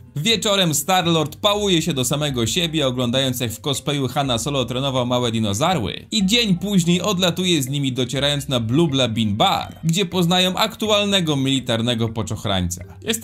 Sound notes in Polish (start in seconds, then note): none